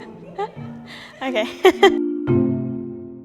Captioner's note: interviewer laughs; laughs; tinkling music